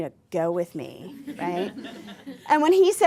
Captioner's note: laughter